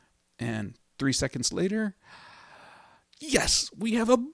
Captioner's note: inhale dramatically